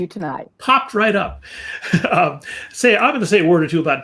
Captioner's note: laughter